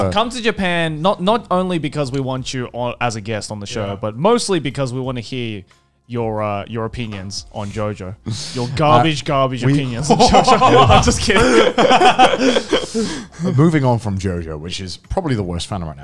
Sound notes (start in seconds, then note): 9.7 men laughing